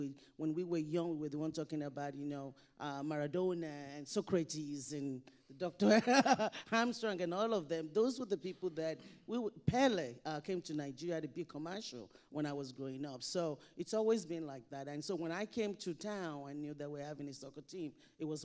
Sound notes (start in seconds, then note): 5.8 laughing